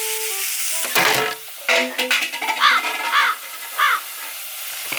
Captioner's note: crash